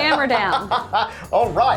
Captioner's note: laughing